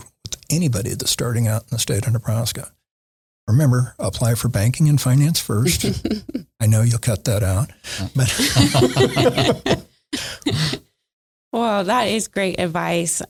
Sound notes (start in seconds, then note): 8.0 laughing